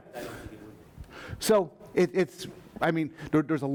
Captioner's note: voiceover